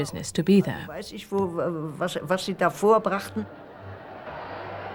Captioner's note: speaking german